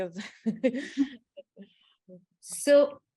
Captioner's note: laughs